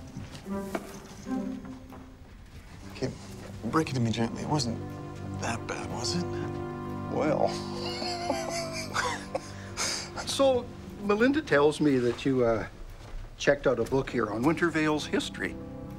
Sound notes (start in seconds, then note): 7.5 Dad laughs